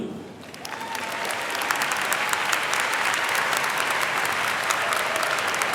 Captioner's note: audience cheering and clapping